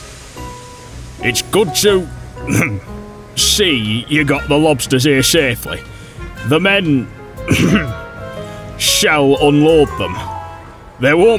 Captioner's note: ahem